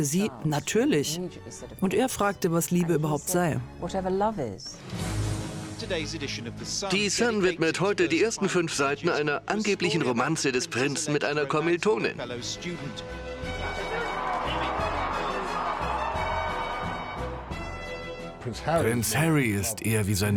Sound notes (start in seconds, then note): 4.9 voiceover; 13.6 crowd cheering